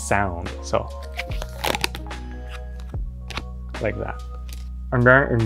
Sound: teeth crunching

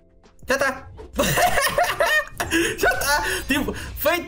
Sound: laughs with crazy happiness

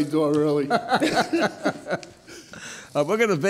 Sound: laughing

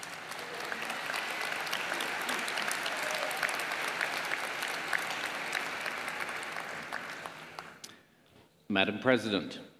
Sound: applause

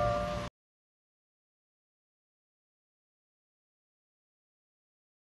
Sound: silence

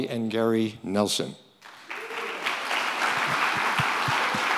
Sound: crowd applauding

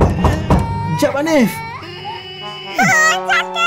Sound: groans

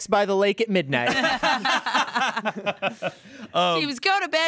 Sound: everyone laughs

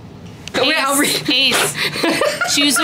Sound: laughing

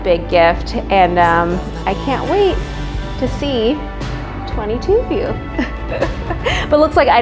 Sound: chuckles

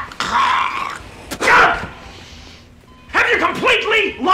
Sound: hocks; spits

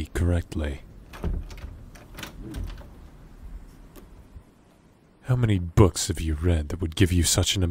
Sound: stepping; doors Opening and Closing, entering captains quarters

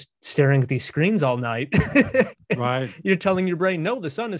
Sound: laughing

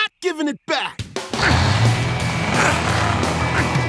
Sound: grunting

